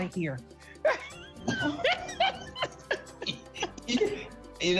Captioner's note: laughter